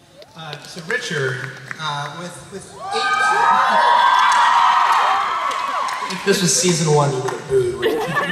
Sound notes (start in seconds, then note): 2.6 cheering